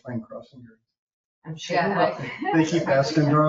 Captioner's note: people chuckle